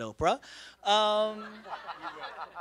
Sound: laughter

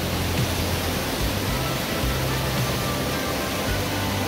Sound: water roars

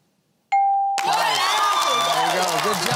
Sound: cheering

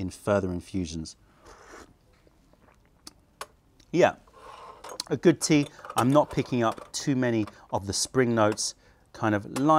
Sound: sips tea

